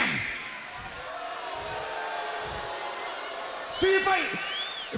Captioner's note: crowd boos